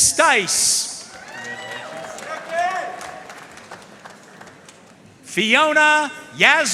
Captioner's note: audience cheering and applauding